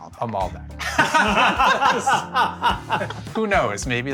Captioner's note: everyone laughing